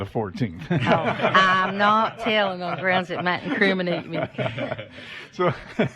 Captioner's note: laughter